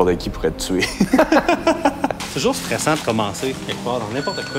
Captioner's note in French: rires